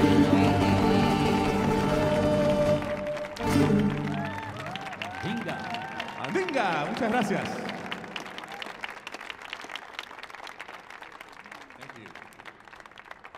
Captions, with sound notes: (audience applauding) (speaking foreign language), muchas gracias. Thank you.